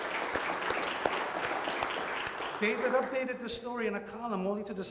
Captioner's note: audience applauds